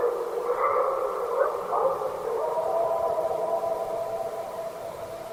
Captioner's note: creature continues barking